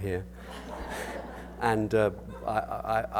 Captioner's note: audience laughter